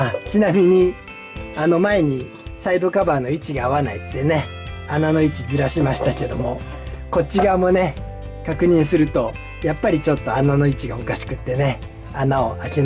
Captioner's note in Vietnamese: cười